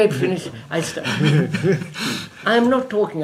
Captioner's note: laughs